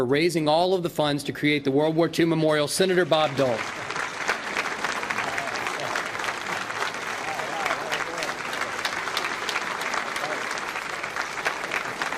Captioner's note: applause